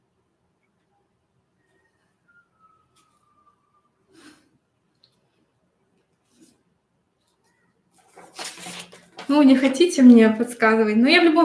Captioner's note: свист за кадром